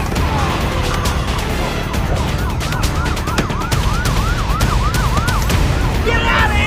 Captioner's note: police sirens blare